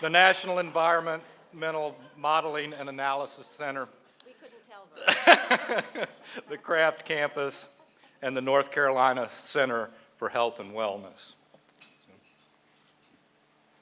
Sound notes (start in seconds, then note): 5.0 laughs